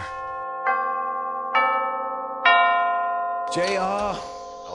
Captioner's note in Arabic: جرس الباب